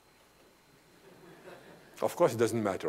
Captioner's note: laughter